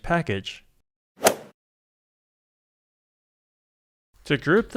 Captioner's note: golf swing sound effect